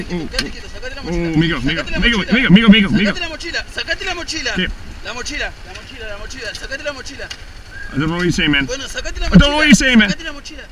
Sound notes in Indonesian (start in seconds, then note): 0.8 suara orang bertengkar